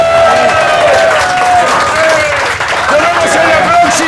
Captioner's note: cheers and applause